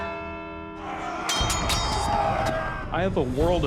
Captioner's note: bell tolls; warriors shouting; weapons clashing